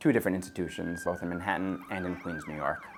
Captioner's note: siren blaring